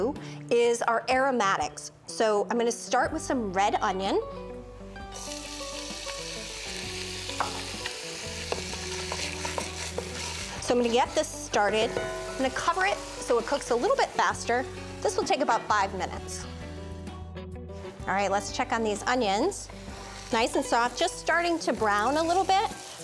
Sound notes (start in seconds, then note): 6.0 pan sizzling